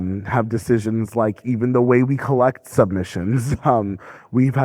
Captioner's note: laughing